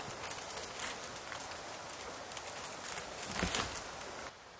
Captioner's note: tarp rustling